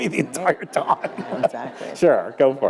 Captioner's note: laughter